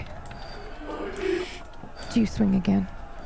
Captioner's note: distorted noise from the creature